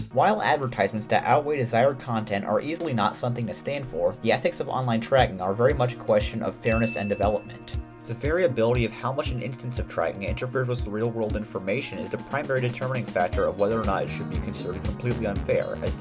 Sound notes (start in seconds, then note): 6.6 ding